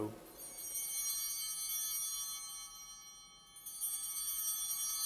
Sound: bell ringing

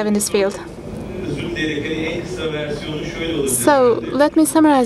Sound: speaking foreign language

